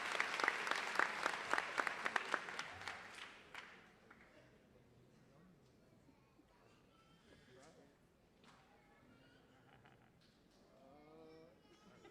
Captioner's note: applause